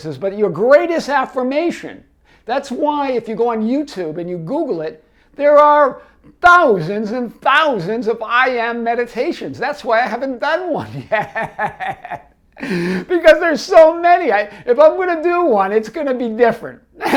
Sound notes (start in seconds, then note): 10.8 laughing